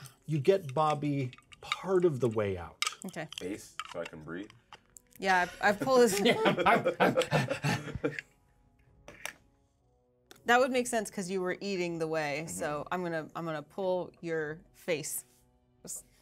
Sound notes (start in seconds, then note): 6.0 speaker chuckles; 6.9 speaker gasps